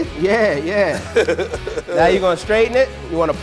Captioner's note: laughing